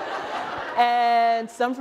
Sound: laughter

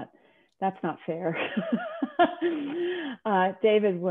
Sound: laughing

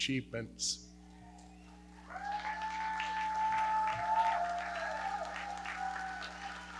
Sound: audience cheering and clapping

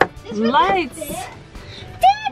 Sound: gasping

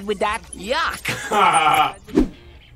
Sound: laughs

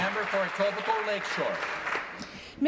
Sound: applause

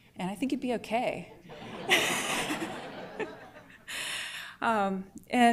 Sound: laughter

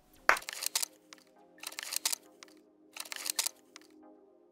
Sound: hands clapping; shutter clicking

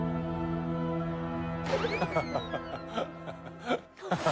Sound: laughing hard

